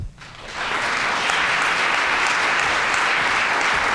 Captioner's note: audience applauding